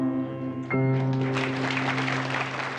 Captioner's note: plays final chord, audience applauds